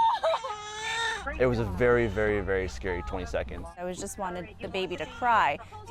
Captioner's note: baby crying